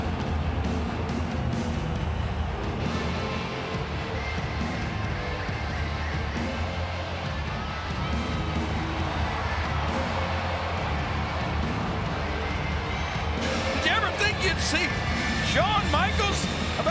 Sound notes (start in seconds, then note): 9.5 audience cheering